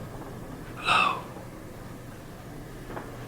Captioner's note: whispers